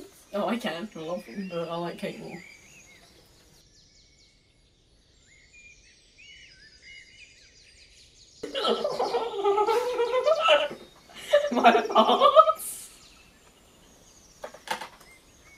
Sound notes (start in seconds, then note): 8.4 hysterical laughter; 13.3 silent laughter